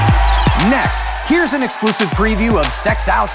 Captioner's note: voiceover